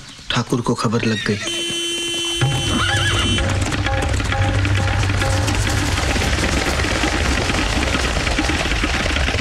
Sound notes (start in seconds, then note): 1.4 Horn honking